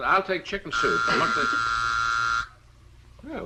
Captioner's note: door buzzer